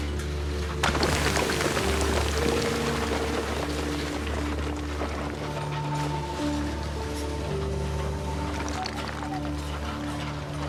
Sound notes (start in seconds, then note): 0.6 loud sound of falling debris